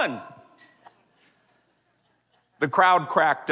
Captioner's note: laughter